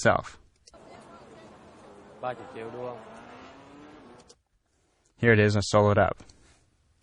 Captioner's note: vietnamese dialogue